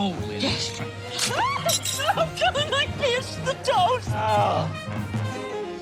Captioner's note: shrieks